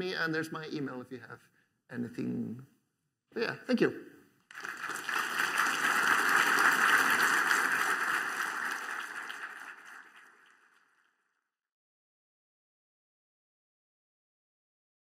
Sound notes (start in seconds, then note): 4.4 applause